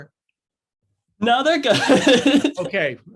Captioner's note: laughs